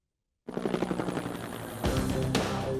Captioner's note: helicopter whirring; mellow rock music